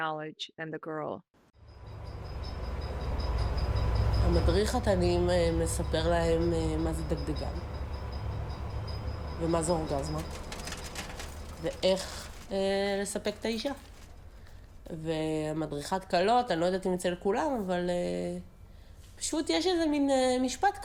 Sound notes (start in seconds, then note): 1.6 Hebrew